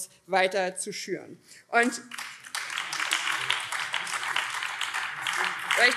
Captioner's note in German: Beifall BÜNDNIS 90/DIE GRÜNEN, vereinzelt SPD und Freie Demokraten